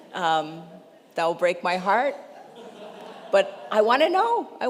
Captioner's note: congregation laughs